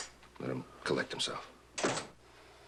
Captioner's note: door closing